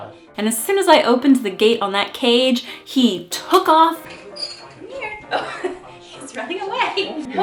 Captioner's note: cage creaking open